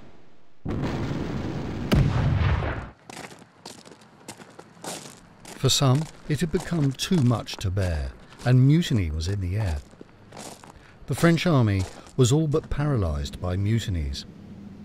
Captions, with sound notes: [boots shuffling] For some, it had become too much to bear and mutiny was in the air. The French Army was all but paralyzed by mutinies.